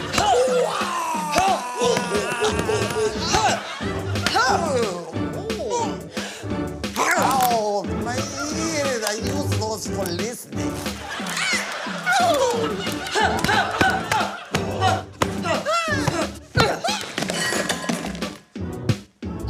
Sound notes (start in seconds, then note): 0.2 grunts; 14.5 grunts repeatedly